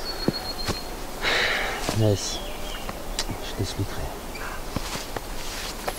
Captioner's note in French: soupir